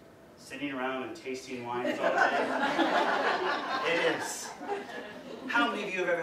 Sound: audience: laughter

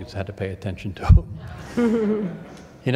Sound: laughter

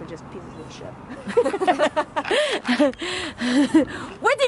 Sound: laughter

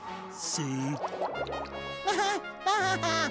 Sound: laughing

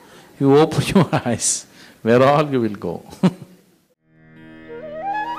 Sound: laugh; laughs

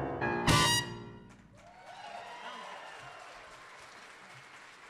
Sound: audience cheering

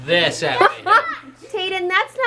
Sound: laughs

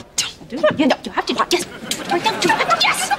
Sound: arguing

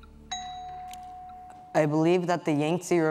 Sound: bell dings

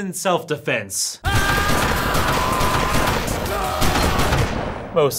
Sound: screaming

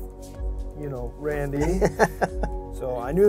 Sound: laughter

